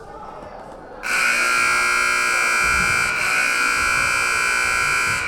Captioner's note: buzzer buzzing